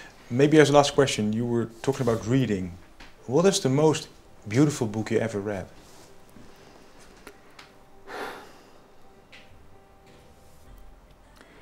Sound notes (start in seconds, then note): 8.0 sighs